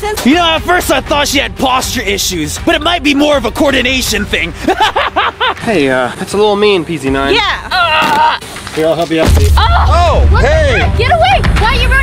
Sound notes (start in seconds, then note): 4.6 laughing; 8.1 grunting